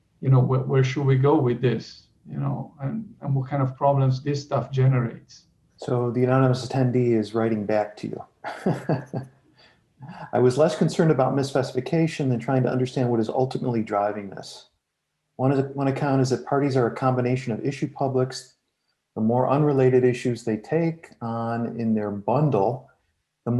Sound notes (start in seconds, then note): 8.5 laughs